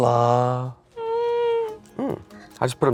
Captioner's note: whines